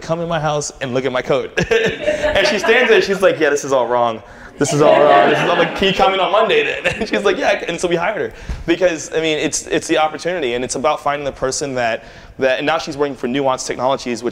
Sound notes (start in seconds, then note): 4.7 laughter